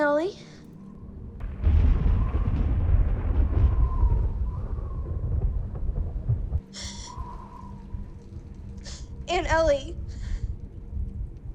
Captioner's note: thunderclap